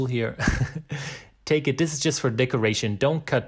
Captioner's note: laughing